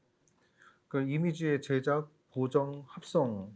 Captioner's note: speaking korean